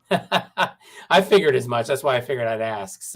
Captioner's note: laughter